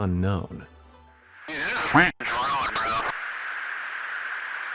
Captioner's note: quacks